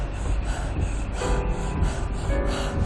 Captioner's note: panting